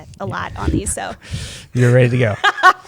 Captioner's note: laughs